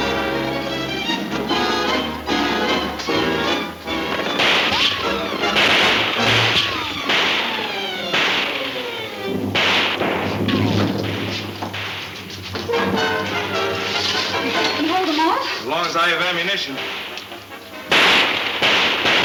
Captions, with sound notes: (guns shooting) - Can you hold them off? - Long as I have ammunition. (guns shooting)